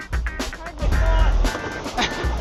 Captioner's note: laughter